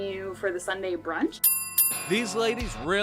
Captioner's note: bell dings